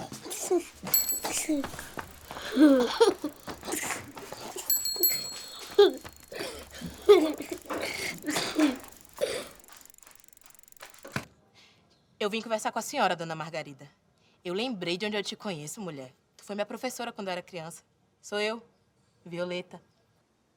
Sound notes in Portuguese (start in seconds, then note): 0.0 passos rápidos; 0.0 risos de criança; 4.7 buzina de bicicleta; 7.1 passos rápidos; 7.1 risos de criança